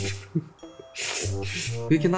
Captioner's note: slurp